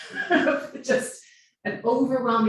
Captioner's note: laughing